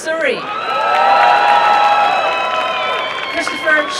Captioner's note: applause and cheering